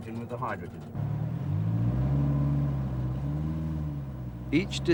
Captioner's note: car engine revs